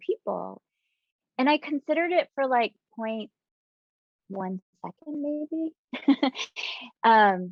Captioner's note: chuckling